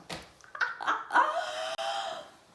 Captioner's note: laughing